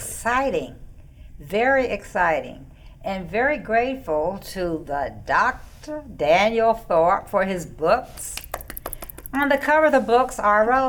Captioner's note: clapping